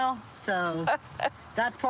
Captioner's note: laughs